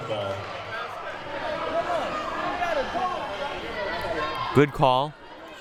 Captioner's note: audience chattering and yelling